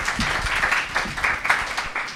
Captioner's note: applause